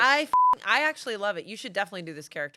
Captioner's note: beep